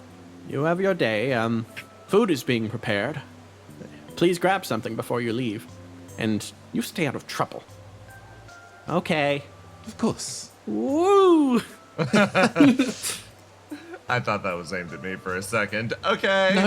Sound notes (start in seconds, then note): 12.0 laughs